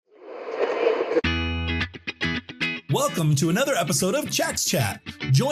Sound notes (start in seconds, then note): 0.1 graphic whooshing; 2.0 upbeat music